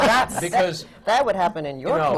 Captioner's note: laughter